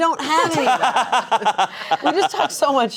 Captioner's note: laughs